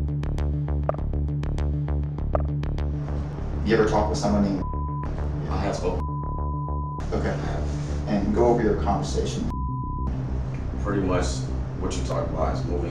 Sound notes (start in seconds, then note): 0.2 suspenseful music; 0.8 messages clicking; 5.9 beep; 9.4 beep